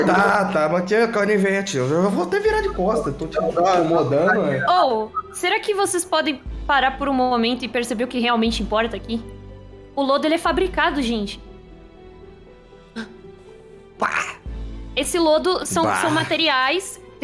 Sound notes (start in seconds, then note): 13.0 gasp